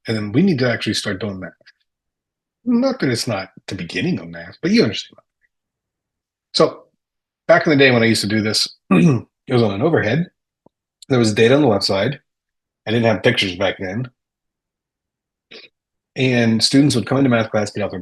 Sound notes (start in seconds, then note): 8.8 clears throat